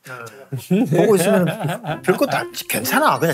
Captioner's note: laughing